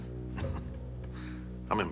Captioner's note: chuckles